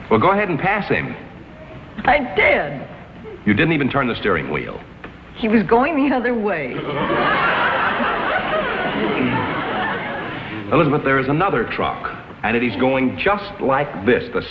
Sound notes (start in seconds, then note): 3.2 laughs; 6.7 audience laughs